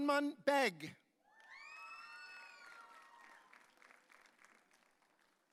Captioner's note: audience cheering